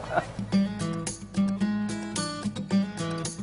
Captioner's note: laughter